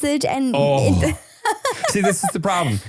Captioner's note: groans